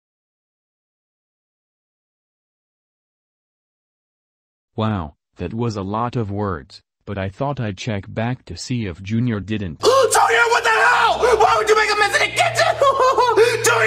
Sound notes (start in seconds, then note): 9.8 gasps